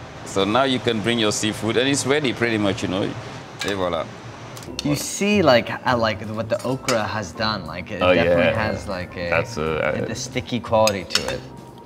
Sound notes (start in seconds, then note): 3.8 speaks in a foreign language